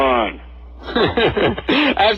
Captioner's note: laughs